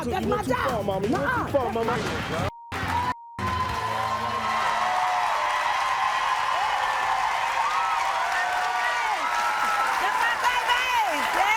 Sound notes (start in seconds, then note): 3.3 crowd cheering; 8.7 cheering drowns out